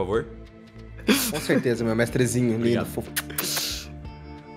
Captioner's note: laughter; kisses